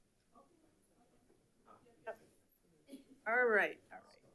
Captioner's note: people chatter